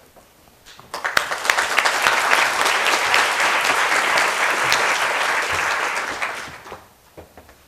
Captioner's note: applause